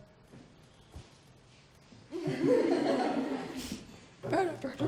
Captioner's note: laughter